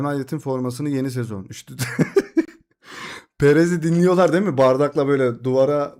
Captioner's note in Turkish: kahkaha